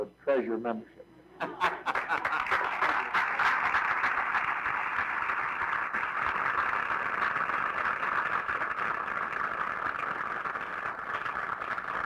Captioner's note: audience Claps